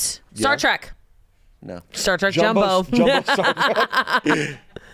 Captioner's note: laughs